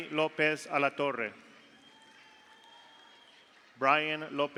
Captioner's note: audience applauds; audience cheers